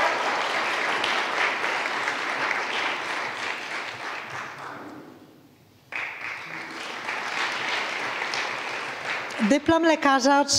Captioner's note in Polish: oklaski